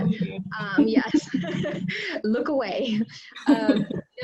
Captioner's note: laughter